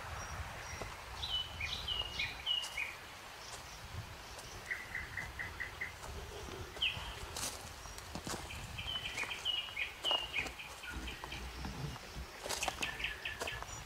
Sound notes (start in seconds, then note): 3.3 birds chirping; 3.3 water splashing